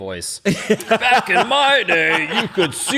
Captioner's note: deep, old man voice